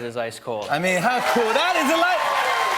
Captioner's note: cheers and applause